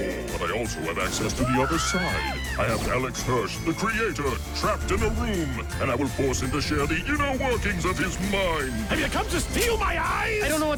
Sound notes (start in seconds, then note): 1.3 both scream